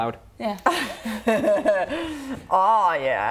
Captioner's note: laughs